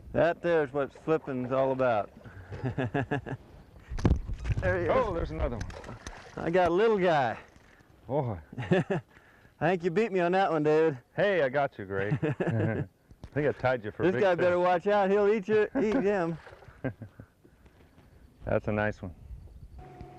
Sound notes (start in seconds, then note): 2.4 laughter; 11.9 laughter; 16.6 small laugh